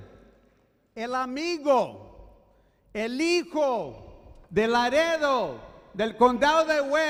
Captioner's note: speaking foreign language